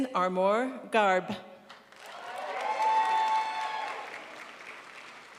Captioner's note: crowd applauds